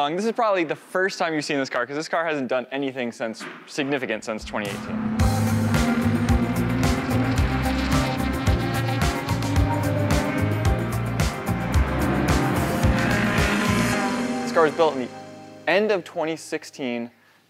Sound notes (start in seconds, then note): 5.2 engine roaring